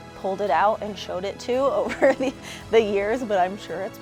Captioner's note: laughs